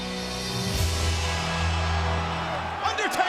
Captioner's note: solemn funereal music continues; crowd cheers